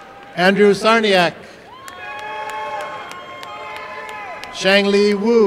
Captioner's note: applause and cheering